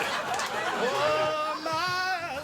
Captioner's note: audience cheering